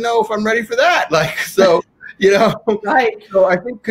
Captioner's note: laughing